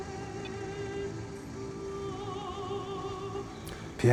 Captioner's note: phone beeps